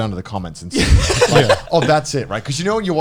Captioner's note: laughing